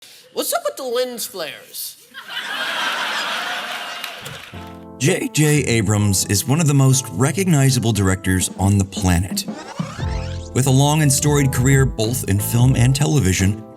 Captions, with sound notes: What's up with the lens flares? [LAUGHTER] JJ Abrams is one of the most recognizable directors on the planet. With a long and storied career, both in film and television,